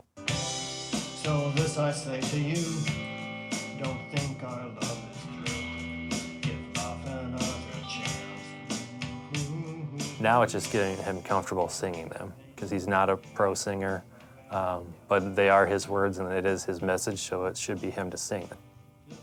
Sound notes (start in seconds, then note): 0.4 gentle music playing; 9.4 humming